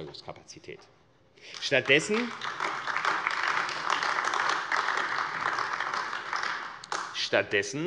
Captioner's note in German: Beifall AfD